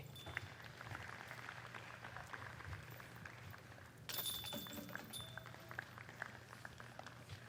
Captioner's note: applause